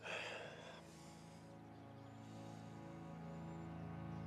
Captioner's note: Jimmy sighs